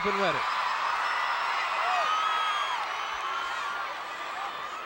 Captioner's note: audience cheering